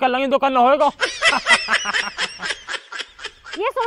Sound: laughing

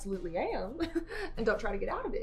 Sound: chuckles

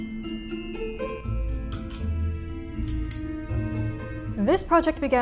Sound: lamp switch clicks

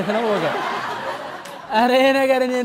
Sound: laughter

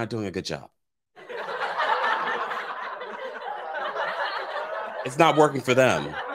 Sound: crowd laughing sound effect

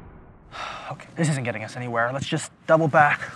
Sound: sigh

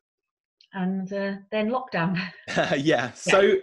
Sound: laughing softly

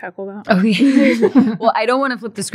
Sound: laughs

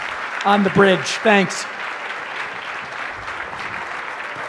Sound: applause

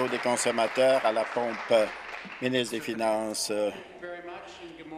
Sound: applause

